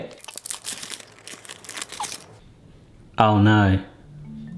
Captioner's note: wrapper crinkling